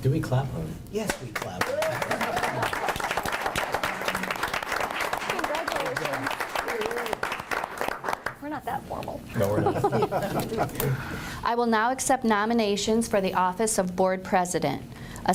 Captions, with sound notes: Do we clap? Yes, we clap. (group applauds) Congratulations. We're not that formal. (group laughs) I will now accept nominations for the office of Board President.